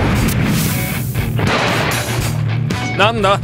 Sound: clang

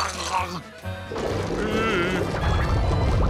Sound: groaning

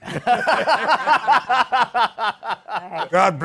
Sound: laughter

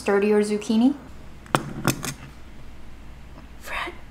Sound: plate thudding

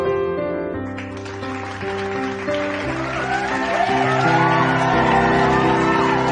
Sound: cheers and appluase

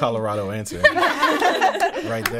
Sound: all laughing

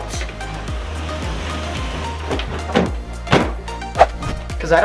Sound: furniture rustles

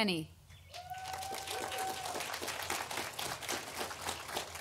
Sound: audience applauding

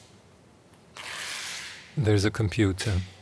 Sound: tape pulling

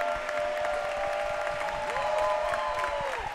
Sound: applause

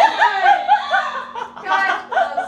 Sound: laughing

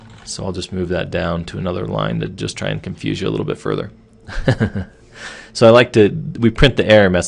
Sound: laughing

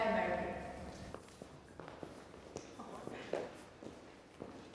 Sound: footfalls thud softly

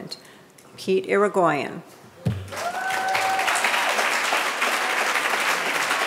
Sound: audience applauding

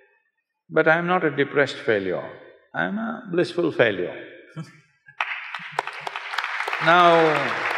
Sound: Nani Laughs; applause

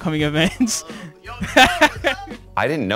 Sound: laughs

